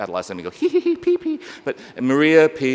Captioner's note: giggles